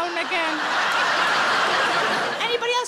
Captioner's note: audience laughing